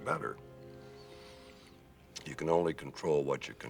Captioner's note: exhales